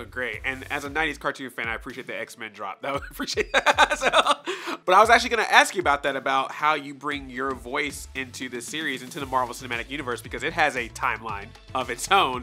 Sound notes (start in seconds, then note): 2.9 laughing